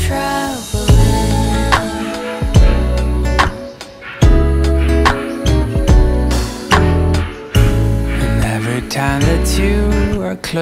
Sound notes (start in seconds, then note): 9.2 shivering w